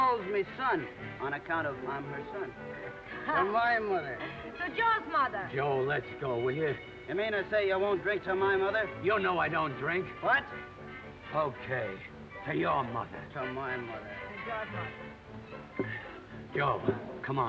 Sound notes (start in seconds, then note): none